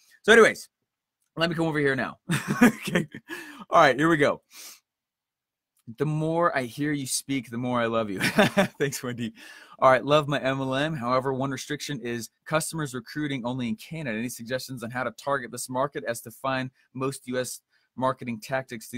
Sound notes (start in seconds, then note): 2.3 laughs; 8.3 laughs